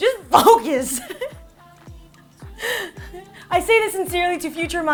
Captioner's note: laughing